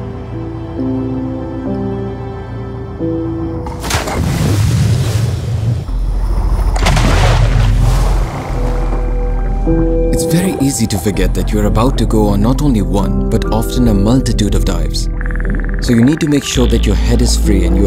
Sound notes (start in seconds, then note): 4.1 water splashing